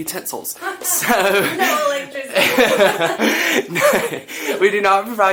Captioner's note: both laughing